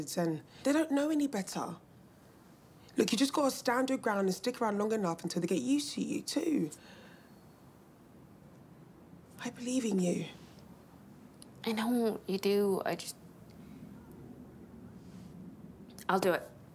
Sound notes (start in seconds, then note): none